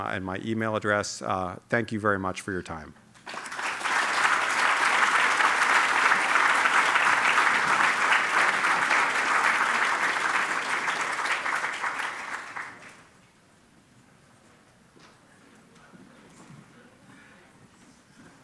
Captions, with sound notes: my e-mail address. Thank you very much for your time. [ Applause ]